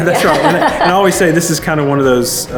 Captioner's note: laughs gently